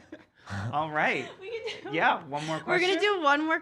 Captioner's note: laughs